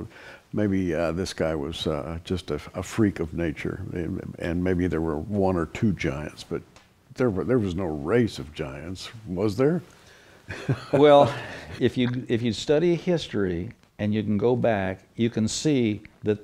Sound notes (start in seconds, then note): 10.5 chuckles